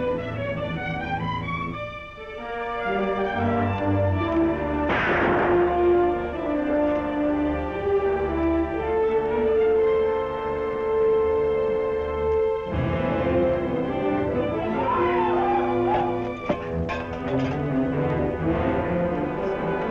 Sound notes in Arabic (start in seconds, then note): 4.8 طلقات نارية